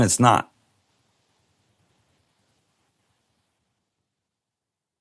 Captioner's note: silence